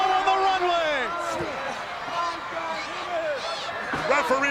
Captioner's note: crowd yelling